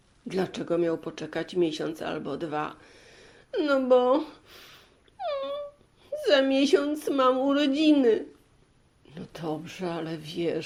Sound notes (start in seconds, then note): 5.2 cries